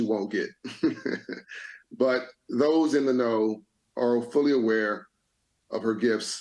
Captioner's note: laughs